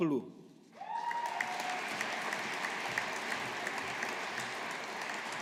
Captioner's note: audience applauding